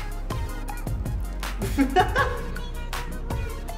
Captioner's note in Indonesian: Puff ha ha ha